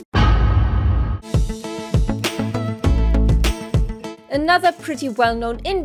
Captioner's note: horror noise